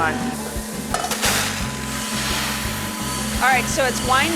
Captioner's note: machine humming